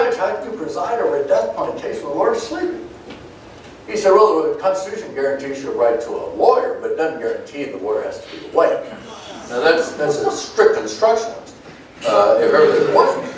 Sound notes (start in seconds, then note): 9.3 groans